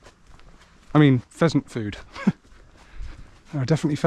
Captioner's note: laughs